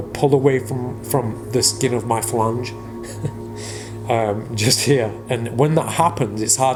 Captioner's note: chuckling